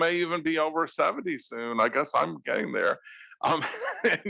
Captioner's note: laugh